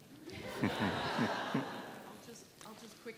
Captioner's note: laughter